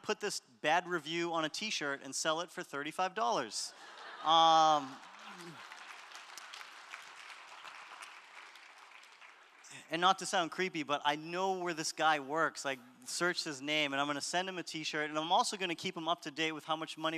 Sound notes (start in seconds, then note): 3.7 audience laughter; 4.6 applause